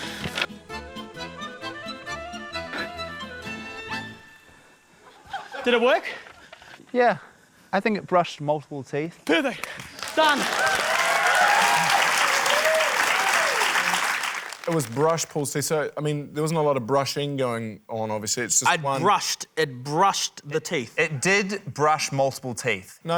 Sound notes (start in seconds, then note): 11.2 cheering, applause